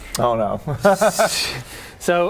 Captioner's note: nice-try laughter